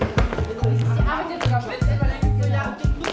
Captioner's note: Stimmengewirr